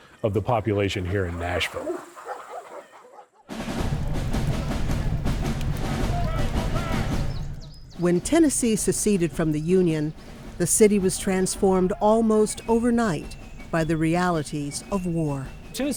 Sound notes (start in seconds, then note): 3.5 dramatic upbeat music; 3.5 soldiers chattering